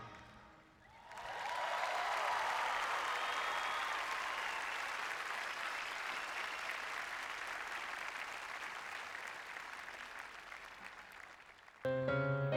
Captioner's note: applause